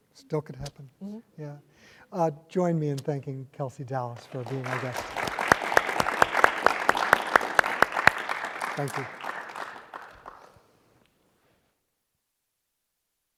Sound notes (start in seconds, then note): 4.2 audience applauding; 6.3 clapping